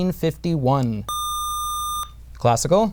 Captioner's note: buzzer